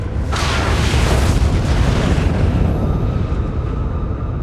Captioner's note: thunderous sound